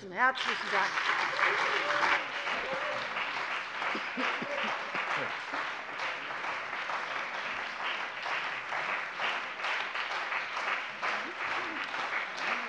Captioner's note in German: Beifall bei der CDU und dem BÜNDNIS 90/DIE GRÜNEN